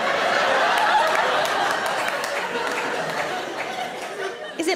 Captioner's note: audience laughs